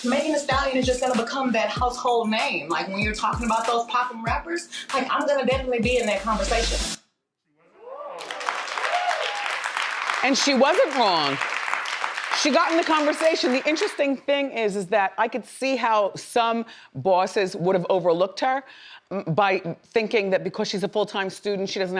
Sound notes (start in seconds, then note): 8.1 audience applauds